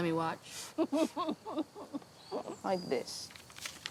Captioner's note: Laura laughing